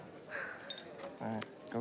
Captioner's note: Debi exhales